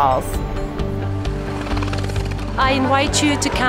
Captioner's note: motorbike engine